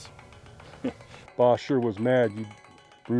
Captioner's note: chuckles